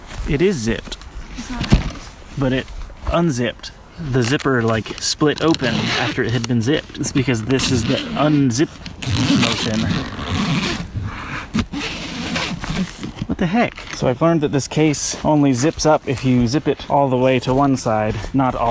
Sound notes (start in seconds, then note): 8.9 zipper zipping